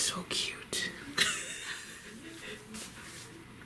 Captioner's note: snickering